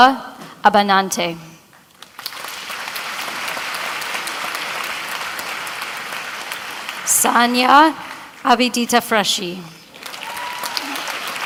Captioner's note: applause